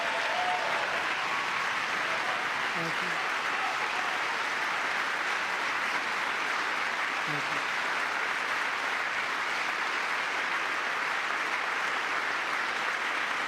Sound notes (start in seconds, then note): 2.7 cheering; 4.3 applause